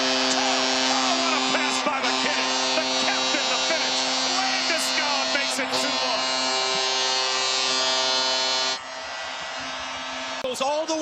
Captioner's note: goal horn